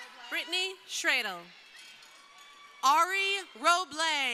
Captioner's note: crowd cheering